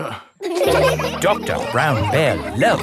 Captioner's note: all laughing